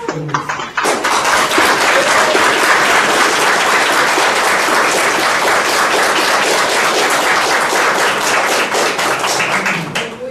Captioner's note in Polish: oklaski